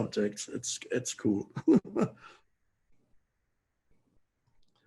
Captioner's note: chuckles